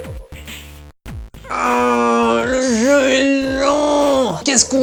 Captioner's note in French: Râle de frustration